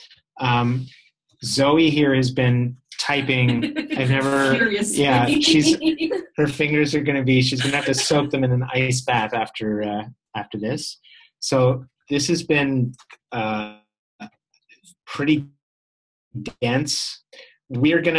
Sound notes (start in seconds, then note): 3.0 laughter